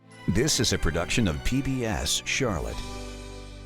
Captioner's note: voiceover